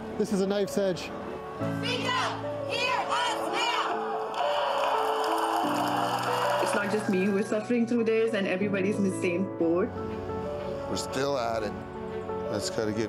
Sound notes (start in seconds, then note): 3.2 chanting